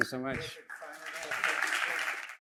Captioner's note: applause